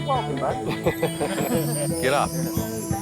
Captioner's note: lalaugughthterer